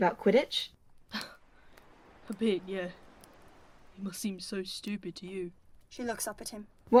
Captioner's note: James huffs out a laugh